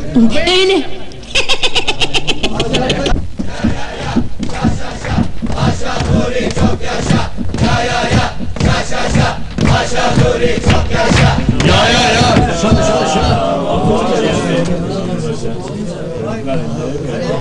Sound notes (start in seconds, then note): 3.5 cheering with tempo by hitting the desks; 11.7 first cheering then grumbling stops